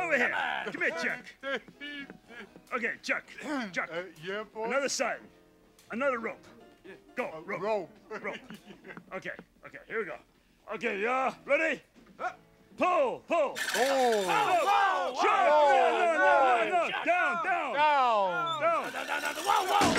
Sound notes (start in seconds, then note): 1.7 Chuck laughing; 8.1 laughs; 13.5 pulley screeching; 13.6 Muppets yelling; 19.2 sign crashing